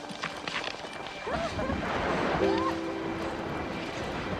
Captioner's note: laughter